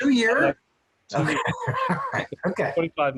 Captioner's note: laughing